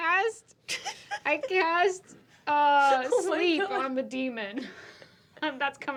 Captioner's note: laughs